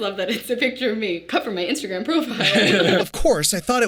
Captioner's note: Jarvis laughing